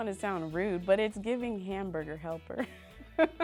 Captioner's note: laughs